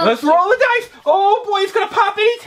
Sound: voiceover

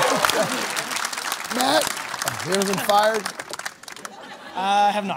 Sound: applause

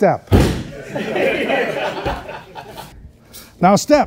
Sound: everyone laughs

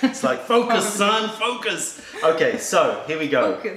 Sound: laughter

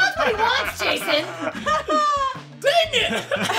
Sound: laughing

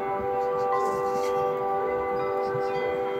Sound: soft sobs

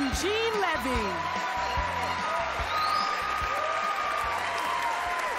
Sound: cheering

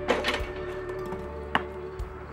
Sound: ball dribbling

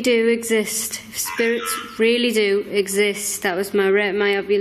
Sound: Ovilus buzzes

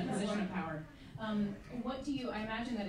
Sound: laughing

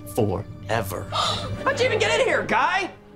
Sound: gasping

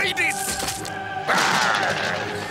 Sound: growls

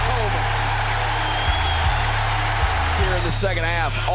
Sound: crowd cheering

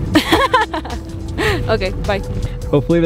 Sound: woman laughing

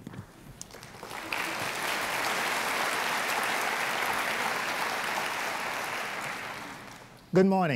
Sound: applause

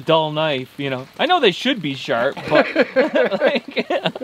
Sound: laughs

